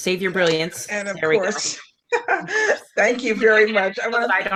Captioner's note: laughing